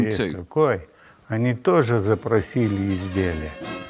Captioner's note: Russian spoken audio